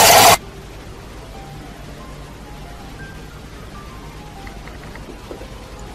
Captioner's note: roller shutter